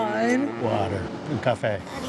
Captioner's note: in Portuguese